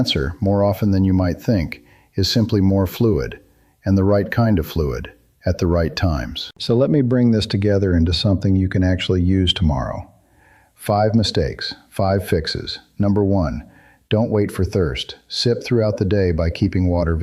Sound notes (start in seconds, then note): 11.1 thoughtful